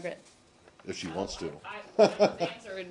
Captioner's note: laughter